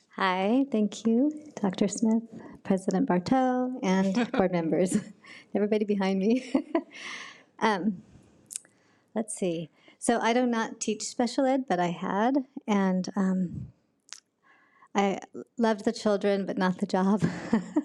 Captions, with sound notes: - Hi, thank you Dr. Smith, President Barto, and board members, and everybody behind me. (laughs) Let's see. So I do not teach special ed, but I had. And I loved the children, but not the job. (laughs)